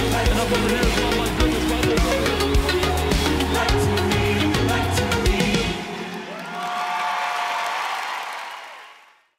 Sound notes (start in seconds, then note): 5.9 music Slows; 7.0 cheers